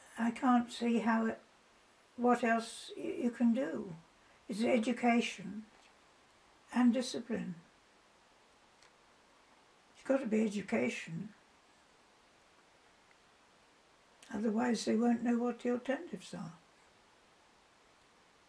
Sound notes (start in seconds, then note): 12.1 pauses for 3 seconds